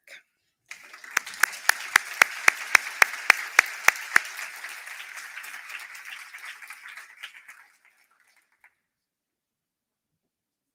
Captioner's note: applause